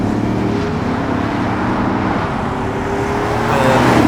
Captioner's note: engine noise